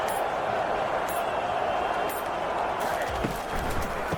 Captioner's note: crowd Noises